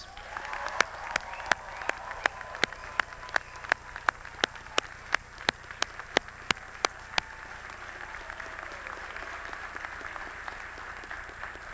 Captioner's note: applause